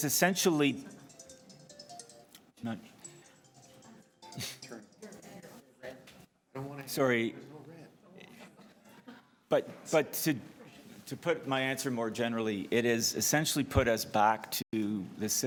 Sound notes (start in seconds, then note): 2.8 phone ringing